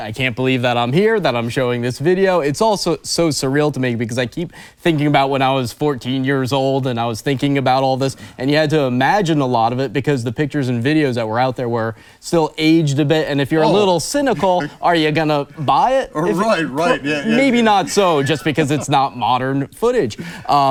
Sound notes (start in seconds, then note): 14.1 laughs